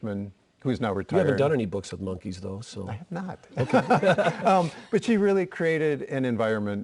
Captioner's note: laughter